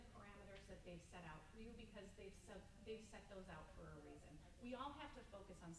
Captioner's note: stammers